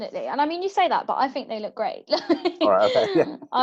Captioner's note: laughs